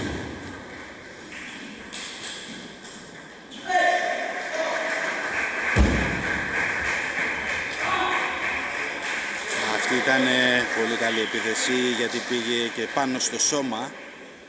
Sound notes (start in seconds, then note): 4.4 applause